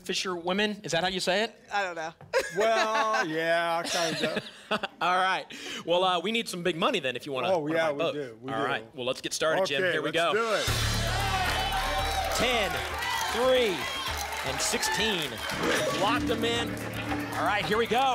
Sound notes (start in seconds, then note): 12.4 applause and cheering; 15.2 applause and cheering cont